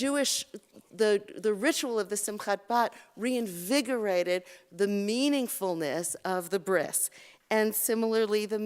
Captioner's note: Hebrew